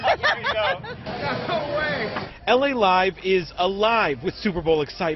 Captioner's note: laughter